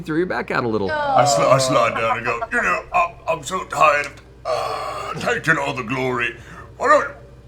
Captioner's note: groans